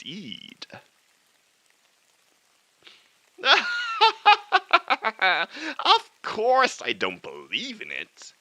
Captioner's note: cackle